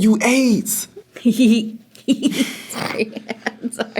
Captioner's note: giggles; laughs